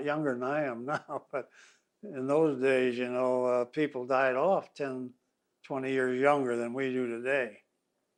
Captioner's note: laughs